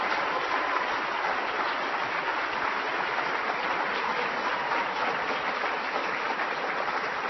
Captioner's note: applause